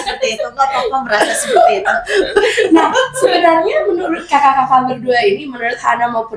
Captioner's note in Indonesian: tertawa